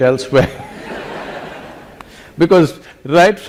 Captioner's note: laughter